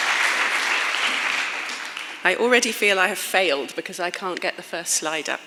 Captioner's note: clapping